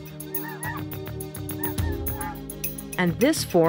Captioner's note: birds squawking